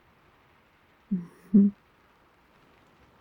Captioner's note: laughs